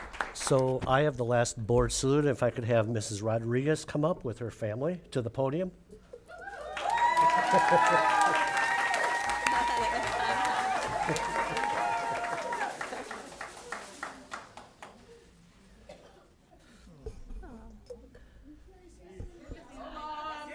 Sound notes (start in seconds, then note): 6.5 cheering; 6.6 applause